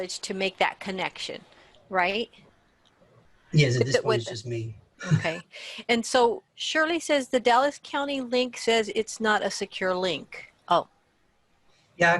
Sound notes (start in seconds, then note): 3.6 laughs